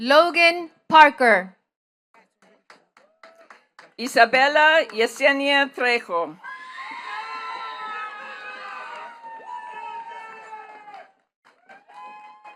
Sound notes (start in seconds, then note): 2.1 attendees clapping; 6.4 attendees cheering and clapping